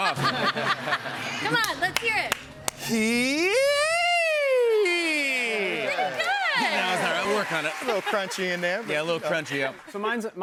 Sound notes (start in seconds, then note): 0.0 laughter; 2.8 escalating pitch vocalization